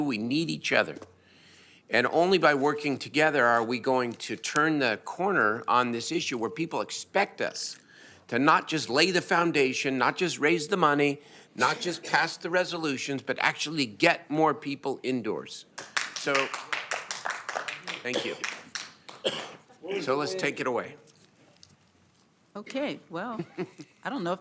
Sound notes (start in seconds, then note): 18.2 applause